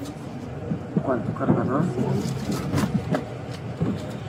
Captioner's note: speaking in foreign language